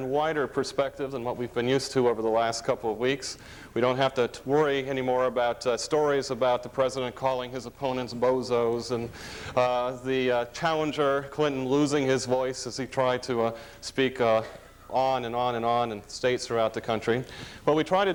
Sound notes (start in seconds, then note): none